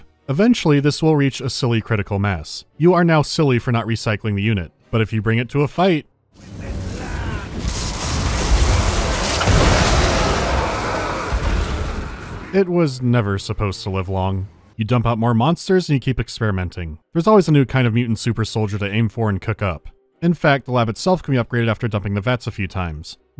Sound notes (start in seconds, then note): 9.3 whomp